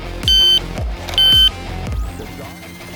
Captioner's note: electronic beeping